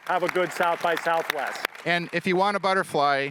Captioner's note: audience applauding